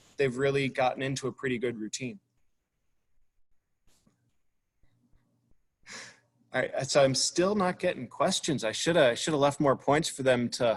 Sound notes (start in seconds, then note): none